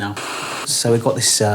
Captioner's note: static hisses